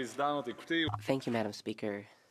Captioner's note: speaking Alternate Language